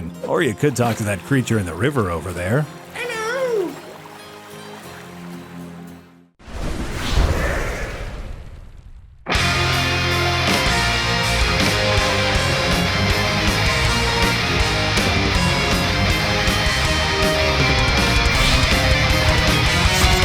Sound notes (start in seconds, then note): 6.4 swooooosh